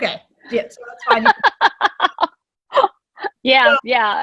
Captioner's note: laughing